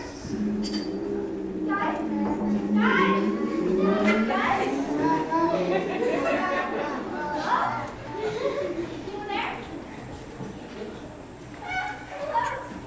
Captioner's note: car starts distantly